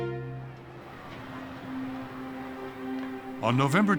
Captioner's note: people talking in background